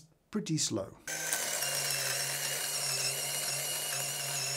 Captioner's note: grinder whirring